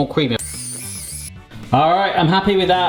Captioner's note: mixer noises